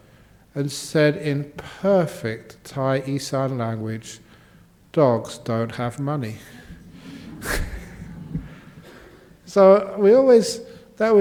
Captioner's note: laughter